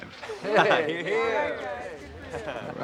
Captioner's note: crowd